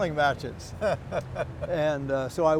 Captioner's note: laughter